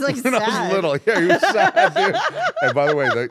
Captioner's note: laugh